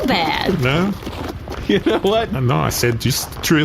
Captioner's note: laughing